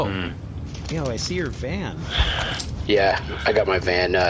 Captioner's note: beeps keys